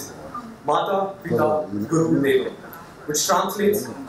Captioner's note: speaking foreign language